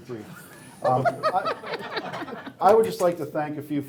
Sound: laughing

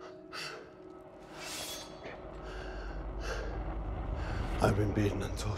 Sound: sword uns unsheath

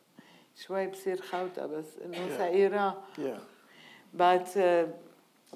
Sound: speaking in foreign language

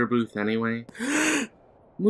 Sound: gasp

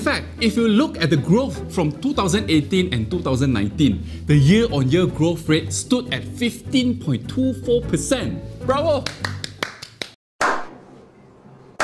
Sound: clap clap

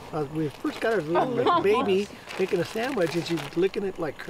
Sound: laughing

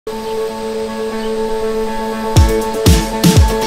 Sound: relaxed music; birds chirping

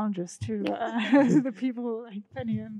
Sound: all laughing

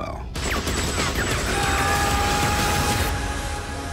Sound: gun shooting; bullets ricocheting; dramatic music

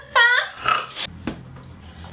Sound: laughs; snorts

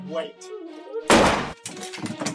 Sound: gunshot

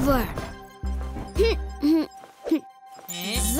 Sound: humming

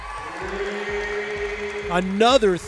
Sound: cheering

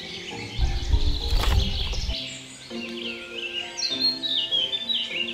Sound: Honey Cat pounces

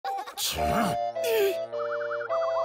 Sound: grunts

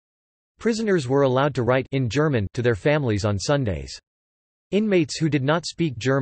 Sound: in German

